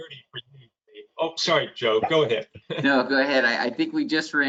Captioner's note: chuckles